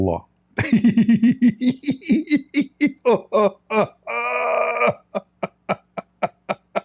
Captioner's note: Ketawa